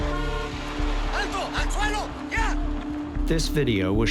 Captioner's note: man shouting in Spanish